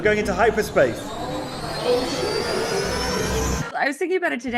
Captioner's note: spaceship whirring